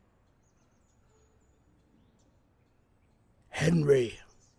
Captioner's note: both engines talk in whispers